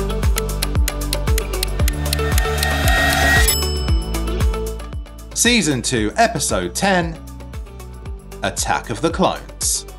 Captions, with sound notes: (timer ticking) (bell dings) Season two, episode 10, "Attack of the Clones."